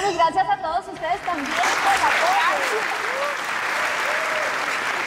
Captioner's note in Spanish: Aplausos; Ovación